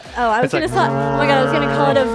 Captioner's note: horn blows